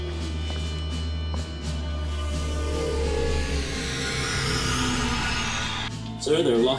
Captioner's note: Klingon transporter-sound